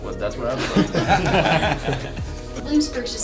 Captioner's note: laughter